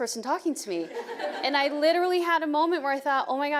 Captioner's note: audience laughing